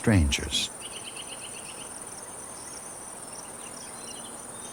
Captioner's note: birds chirping